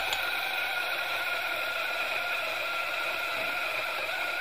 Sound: coffee grinding

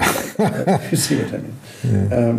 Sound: laughs

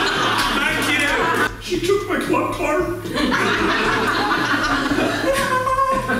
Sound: audience Laughing

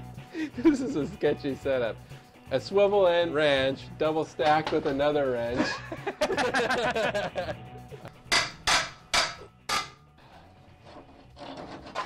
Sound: laughs

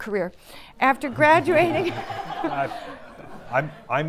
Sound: audience laughing

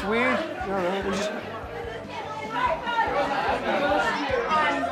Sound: people chattering

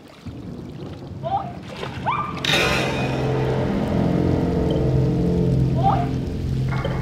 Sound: lamb screaming

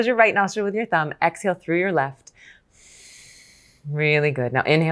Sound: exhales gently

